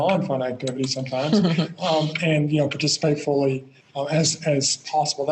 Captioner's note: both laugh